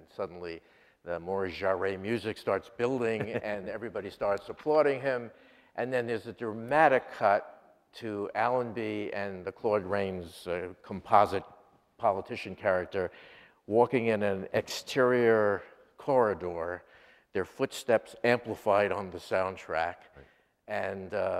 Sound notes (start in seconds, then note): 3.1 laughter